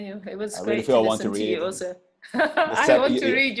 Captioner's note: laughs